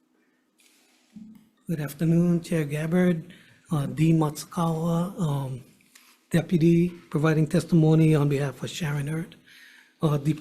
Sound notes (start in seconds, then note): none